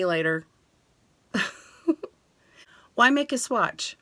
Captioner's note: laughs